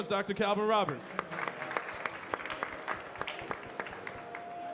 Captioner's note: audience clapping